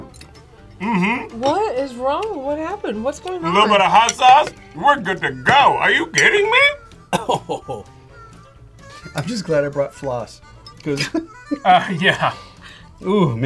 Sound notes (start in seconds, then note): 7.0 coughs; 10.8 laughs